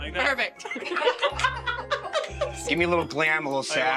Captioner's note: laughing